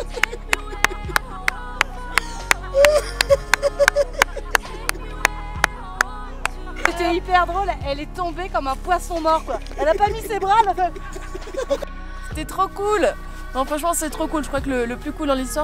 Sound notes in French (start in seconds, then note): 0.1 rires de , applaudissements; 9.2 rires